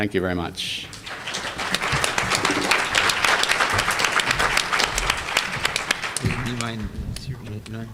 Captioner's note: applause